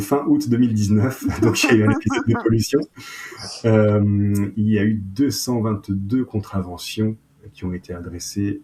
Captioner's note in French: rires